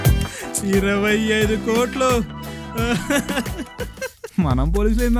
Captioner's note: happy laugh